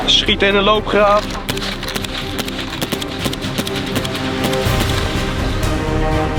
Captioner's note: shooting sounds